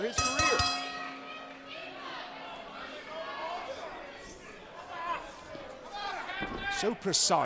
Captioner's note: bell ringing